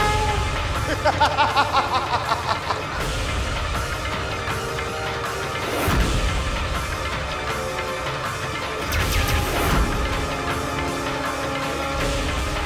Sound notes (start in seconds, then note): 0.8 laughs